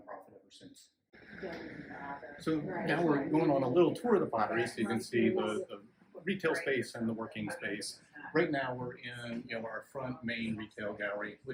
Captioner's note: chatter in the background